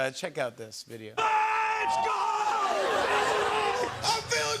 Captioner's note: laughter